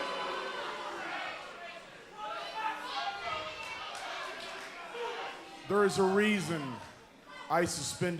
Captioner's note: crowd cheering